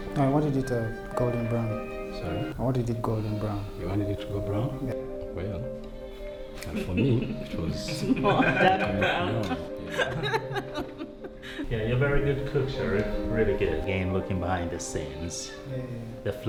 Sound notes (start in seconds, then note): 9.8 laughter